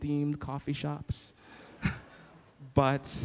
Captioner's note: laughing